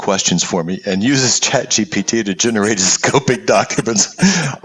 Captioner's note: laugh